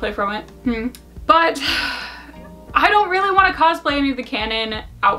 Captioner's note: sighs